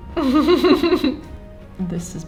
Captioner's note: muffled delirious laughter